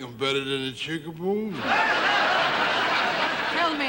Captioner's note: audience laughing